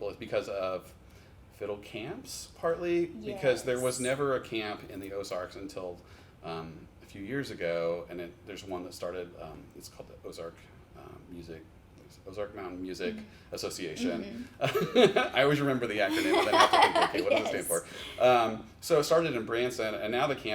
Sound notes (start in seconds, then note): 16.1 laughs